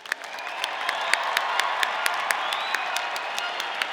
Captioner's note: audience applauding